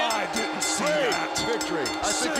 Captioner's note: bell ringing